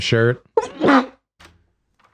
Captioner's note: sneeze